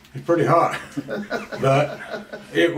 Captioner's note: both laugh